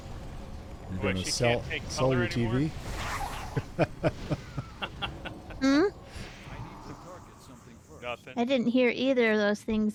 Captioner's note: laughing